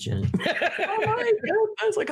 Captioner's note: laughing